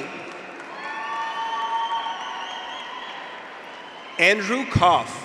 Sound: audience applauds; graduates cheer

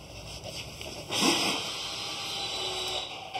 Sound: sound of drilling in the background

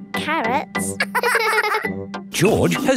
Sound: both laughing

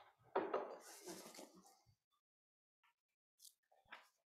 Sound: glass on table noise

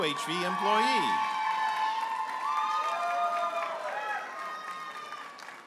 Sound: audience applauding and cheering

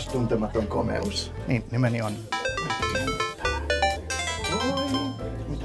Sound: game sounds

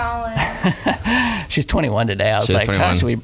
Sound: laughing

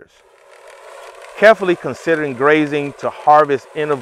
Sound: machinery humming

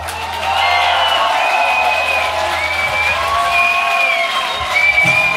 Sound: cheering

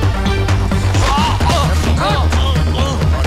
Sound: groans

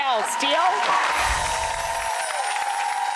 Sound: applause

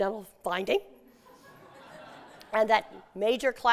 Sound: laughter

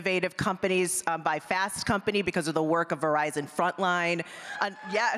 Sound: applause

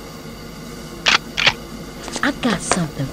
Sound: cocks pistol

